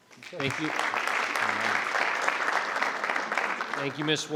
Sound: crowd clapping

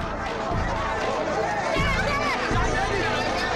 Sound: people shouting

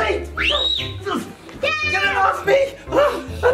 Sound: screams

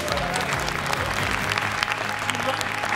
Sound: applause

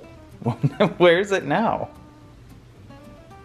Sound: laughing

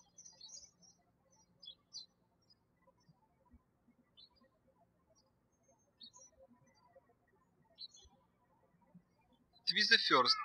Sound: birds chirping

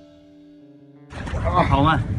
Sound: struggling

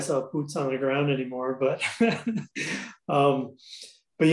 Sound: laughs

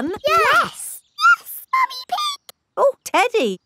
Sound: in high-pitched voice

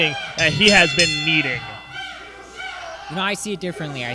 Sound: ring bell tolls

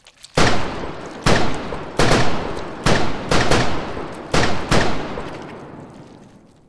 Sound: gunshots and slimy tenctacle noises

